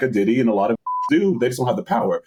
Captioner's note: beep